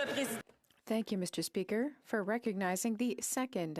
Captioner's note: speaking French